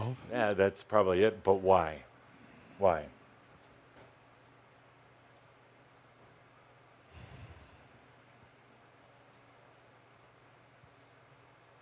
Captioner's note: long pause